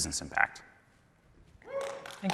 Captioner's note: applause